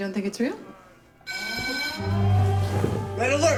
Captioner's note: alarm bell